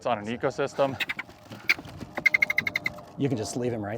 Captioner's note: ferret chirping